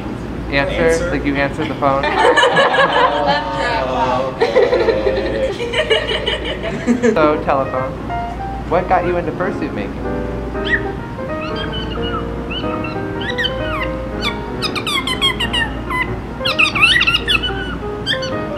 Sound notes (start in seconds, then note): 1.6 forced laughter; 4.2 laughter continues